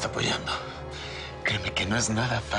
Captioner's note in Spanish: En voz baja